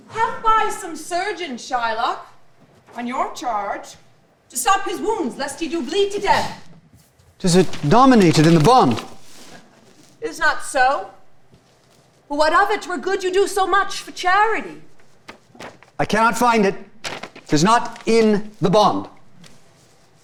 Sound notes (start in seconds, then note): 7.0 paper rustling; 17.1 paper rustling